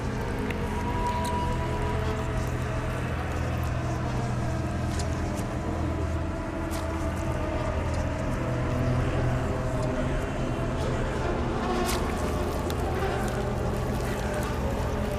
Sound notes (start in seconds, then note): 0.5 slow intense music; 8.5 skin squishes